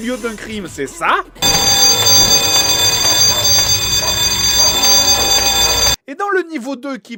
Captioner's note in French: bruit de sirène d'alarme agaçant